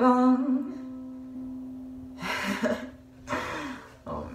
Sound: sighs, laughs

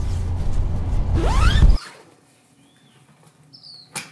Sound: zips

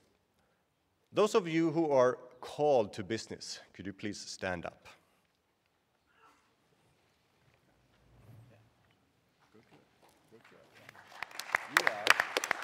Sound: applause

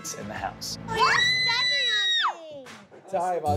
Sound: screaming

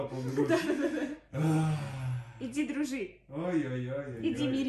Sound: breath out

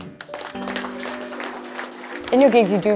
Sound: applause

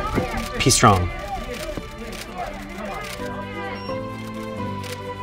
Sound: crowd murmuring

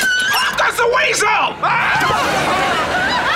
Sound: screaming

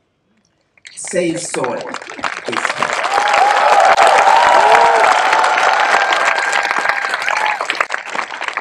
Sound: cheering/Applause

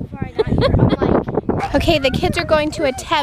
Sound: laughs

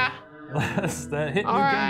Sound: laughs

